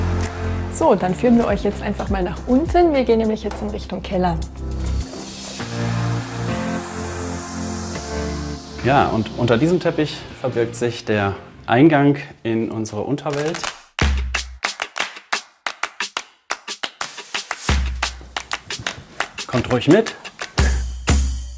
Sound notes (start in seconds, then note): 5.6 powerful music; 13.7 rhythmic clapping; 20.4 percussion music